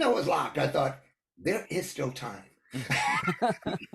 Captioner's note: laughs